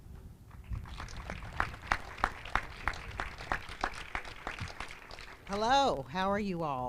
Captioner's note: applause